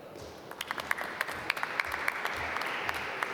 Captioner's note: applause